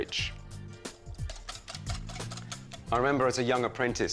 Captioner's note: mixture squelches